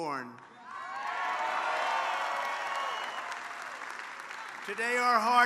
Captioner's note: applause